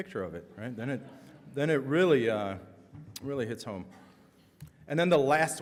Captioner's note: audience laughs